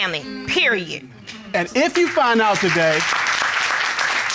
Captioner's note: applause